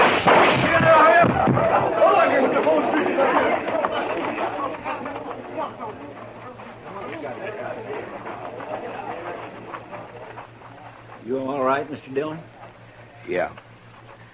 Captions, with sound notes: (gunshots) (all shouting) You all right, Mr. Dillon? Yeah.